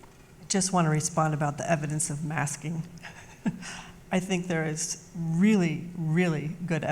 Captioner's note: laughs